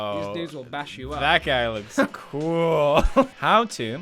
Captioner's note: laughs